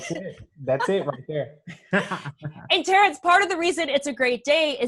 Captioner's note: laughs